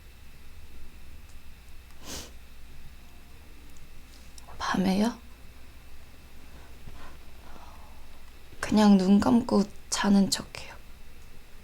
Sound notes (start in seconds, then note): none